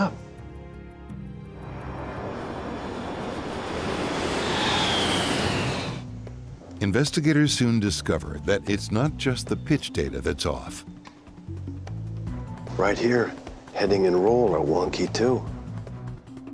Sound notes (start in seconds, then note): 1.1 airplane engine roaring; 1.7 screeching; 11.8 gentle music